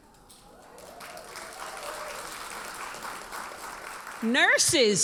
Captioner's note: audience applauds